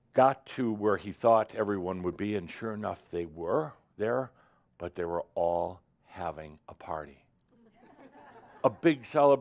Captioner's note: laughter